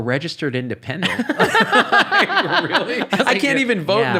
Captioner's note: laughing